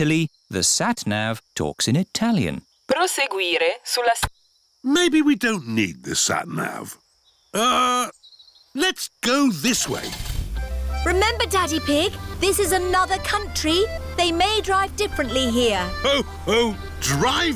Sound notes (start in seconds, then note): 3.2 sat nav talks in italian; 9.7 starts engine